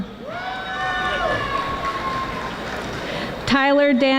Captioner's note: audience applauding